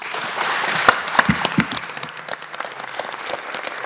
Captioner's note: audience clapping